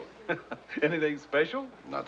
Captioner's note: laughs